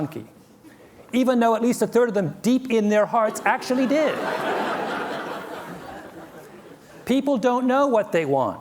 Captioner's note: laughter